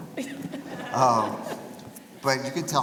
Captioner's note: laughing